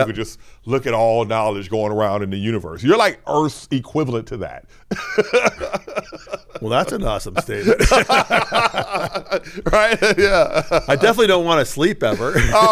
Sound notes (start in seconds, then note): 4.9 laughs; 8.2 both laughing